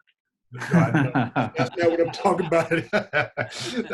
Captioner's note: all laughing